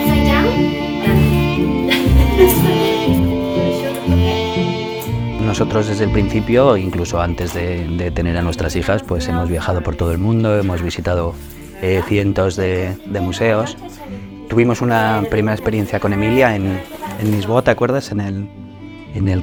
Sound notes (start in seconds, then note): 1.9 laughs